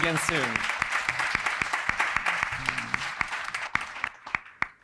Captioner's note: audience applauding